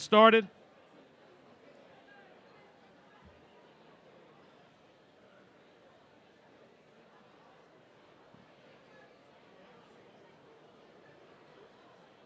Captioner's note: group talking